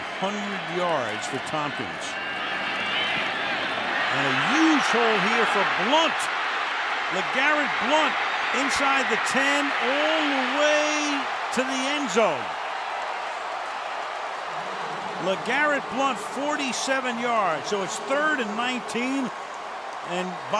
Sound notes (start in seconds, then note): 13.2 cheering